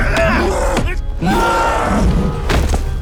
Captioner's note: screams